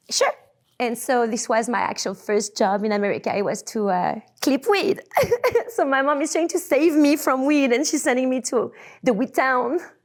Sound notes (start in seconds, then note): 4.7 laughs